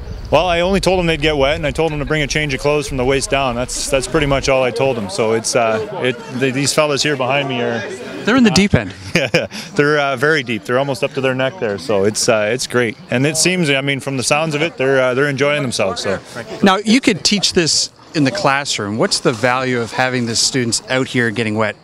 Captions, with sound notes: >> Well, I only told them they'd get wet and I told them to bring a change of clothes from the waist down. That's pretty much all I told them. So these fellows here behind me are-- >> They're in the deep end. >> Yeah [laughs]. They're very deep. They're almost up to their neck there, so it's great. And this seems, I mean, from the sounds of it, they're enjoying themselves, so. >> Now, you could teach this in the classroom. What's the value of having the students out here getting wet,